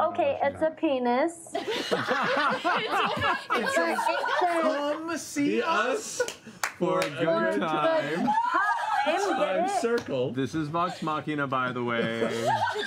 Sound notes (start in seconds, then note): 1.5 laughter